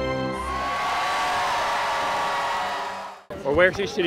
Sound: crowd cheering

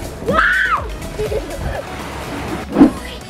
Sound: girls giggling

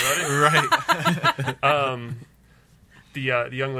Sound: laughs

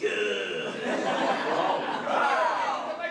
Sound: audience laughter

